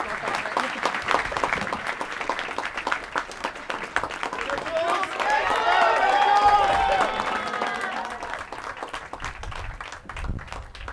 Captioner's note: cheering and applause